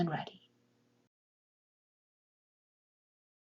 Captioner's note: pause